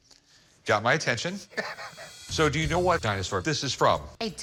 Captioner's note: chuckles